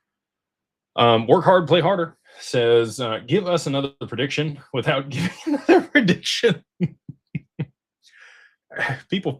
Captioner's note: laughter